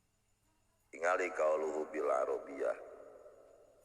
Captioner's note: Arabic